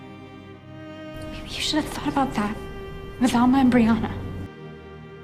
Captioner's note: whispering